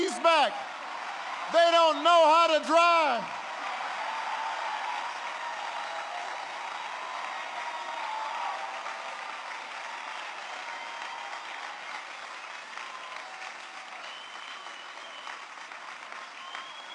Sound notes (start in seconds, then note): 0.0 laughter and applause; 8.7 applause